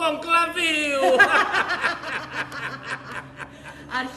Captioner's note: γέλιο